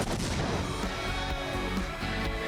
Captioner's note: bomb explodes; rock music